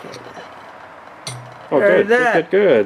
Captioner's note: wing nut plunking